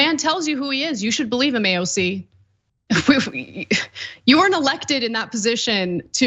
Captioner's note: laugh